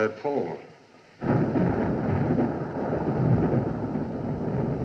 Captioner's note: thunder Continues